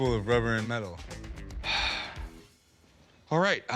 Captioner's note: sighs